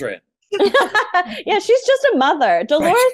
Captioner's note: Kelli laughs